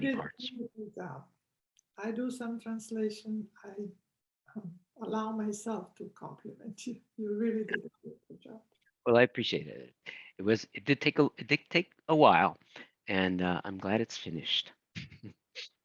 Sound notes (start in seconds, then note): 14.5 chuckles